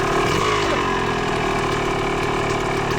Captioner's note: engine roaring